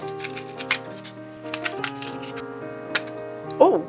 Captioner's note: sound of foam core crunching and background piano music